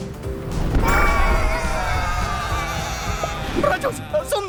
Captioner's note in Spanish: Explosión y baas tristes